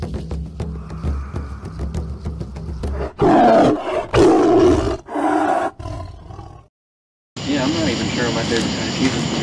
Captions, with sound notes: (tribal drums) (tiger roars) - Yeah, I'm not even sure what my favorite kinda cheese is.